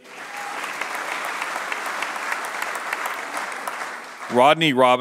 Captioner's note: applause